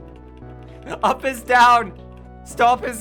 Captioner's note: giggling